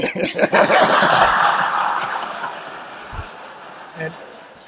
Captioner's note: laughter